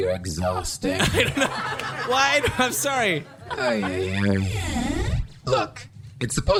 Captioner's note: Pleck stammers